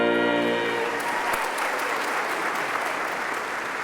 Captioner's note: applauding